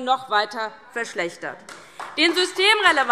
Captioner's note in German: Beifall DIE LINKE und vereinzelt SPD